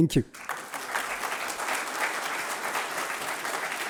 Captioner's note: applause